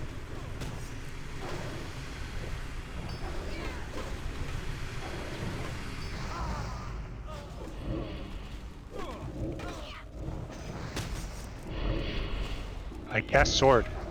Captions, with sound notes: [GRUNTING] I cast sword.